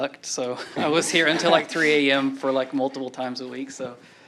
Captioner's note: laughter